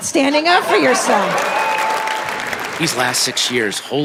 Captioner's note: audience applauding